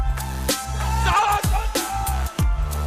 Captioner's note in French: il crie